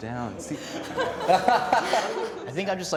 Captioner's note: group laughter